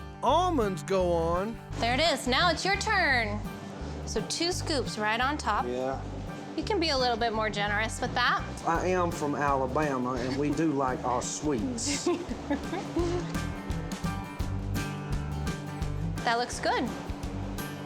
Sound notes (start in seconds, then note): 11.8 giggling